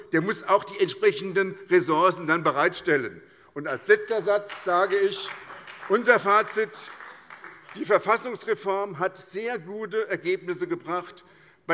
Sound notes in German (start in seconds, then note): 4.0 Beifall bei der SPD